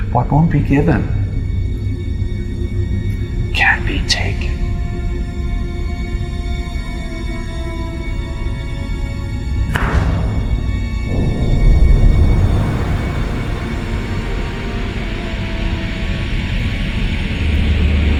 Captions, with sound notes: What won't be given can be taken. (suspenseful music) (snap) (air hissing)